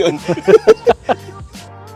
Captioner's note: laughs